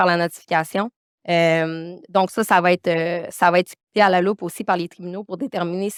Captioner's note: continues speaking French